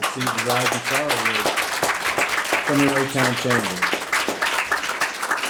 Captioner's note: audience clapping drowns out speaker